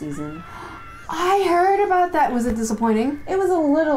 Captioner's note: gasp